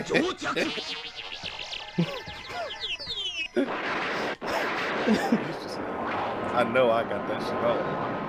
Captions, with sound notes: [LAUGHTER] [LAUGHTER] I know I got that shit on.